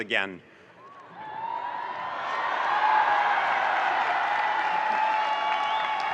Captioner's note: audience cheering and applauding